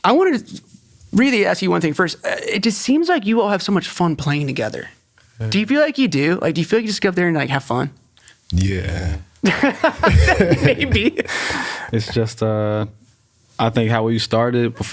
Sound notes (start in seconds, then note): 9.4 laughs